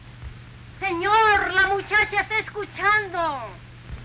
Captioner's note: Spanish spoken audio